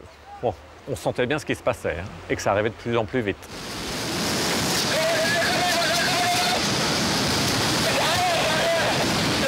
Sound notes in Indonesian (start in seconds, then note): 3.4 suara gelombang tsunami; 4.9 suara kepanikan